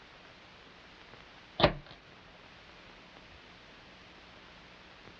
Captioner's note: door latch snapping